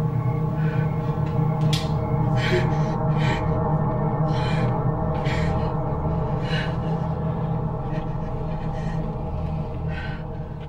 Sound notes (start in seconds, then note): 4.1 gasping